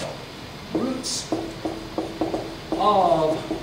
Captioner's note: marker clacks